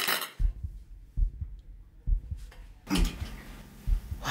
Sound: heartbeat

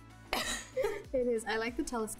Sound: both laughing

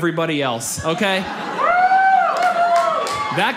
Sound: man cheers

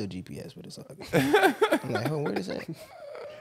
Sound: laughing

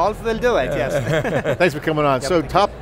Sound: laughing

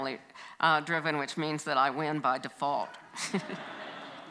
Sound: audience laughs; chuckles

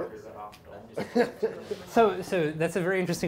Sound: laughter

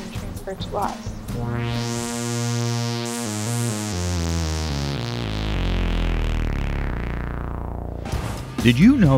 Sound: sound Effects

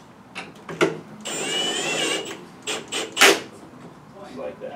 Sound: drill noises

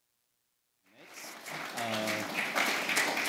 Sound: applause

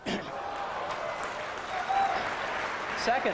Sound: applause

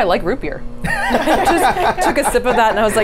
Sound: the group laughs

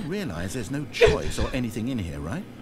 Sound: laughs

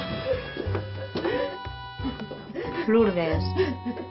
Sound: still sobbing; sighs

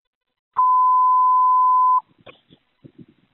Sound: annoying Long Beep for Manual Dispatch later on

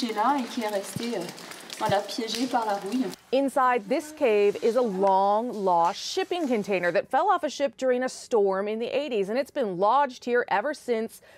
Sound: speaking french

